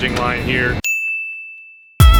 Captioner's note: ding